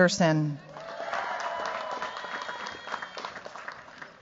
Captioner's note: cheers, applause